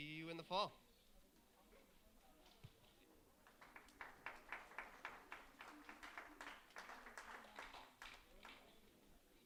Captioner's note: applause